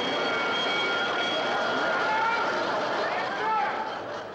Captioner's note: bell dings; whistle shrills